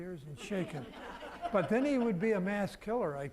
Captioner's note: audience laughing